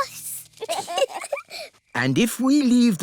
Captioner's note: both giggle